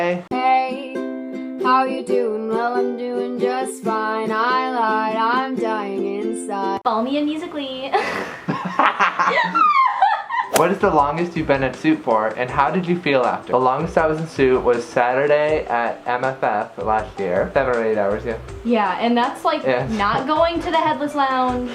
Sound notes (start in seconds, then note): 8.0 both laughing